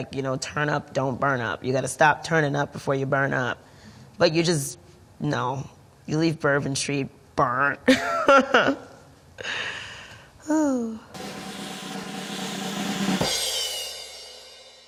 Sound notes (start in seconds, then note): 8.0 laughs; 11.1 drum roll